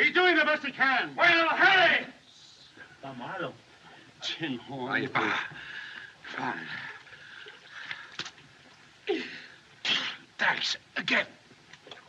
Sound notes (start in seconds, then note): 5.2 exhales; 9.8 gasps